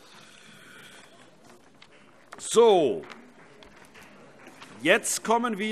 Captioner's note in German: Vereinzelter Beifall CDU